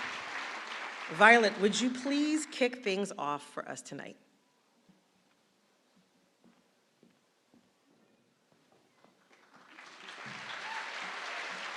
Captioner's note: applause